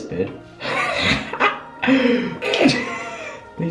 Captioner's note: laughing at himself